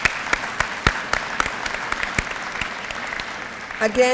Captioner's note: audience applause